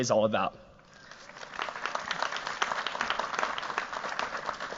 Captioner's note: applause